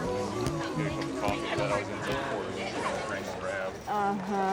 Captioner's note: background conversation